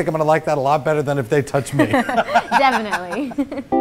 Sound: laughs

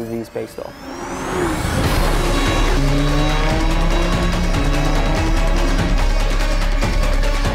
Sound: intense music; engines revving

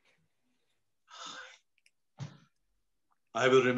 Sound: bernard sighs

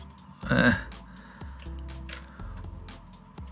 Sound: groans

